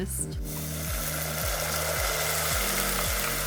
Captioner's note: loud sizzling